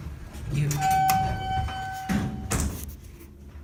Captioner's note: elevator Chimes once